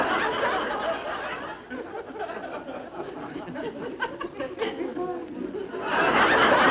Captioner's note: audience laughing